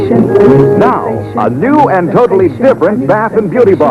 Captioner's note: announcer voice